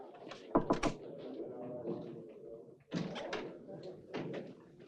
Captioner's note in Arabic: يطرق الموظف